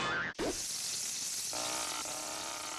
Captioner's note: sizzling